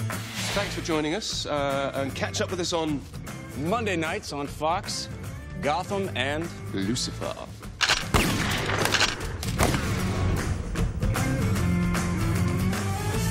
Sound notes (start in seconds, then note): 7.8 gunshots